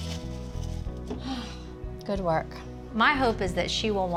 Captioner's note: sighs